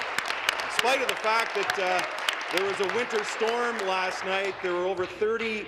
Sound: applause

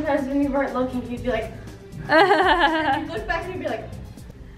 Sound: laughing

